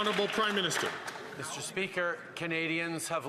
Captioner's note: some Applause